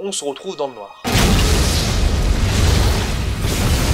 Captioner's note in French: bruit d'explosion